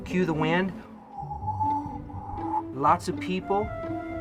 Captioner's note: whistles